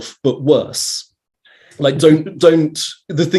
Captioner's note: laughs